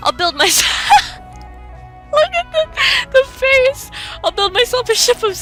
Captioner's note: laughing; dying laughing